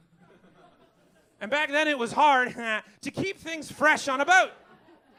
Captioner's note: heheh